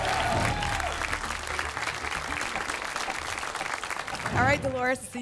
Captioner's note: applause and cheering